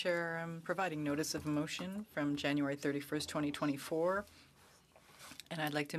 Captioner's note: speaking French